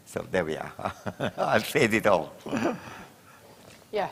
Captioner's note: chuckles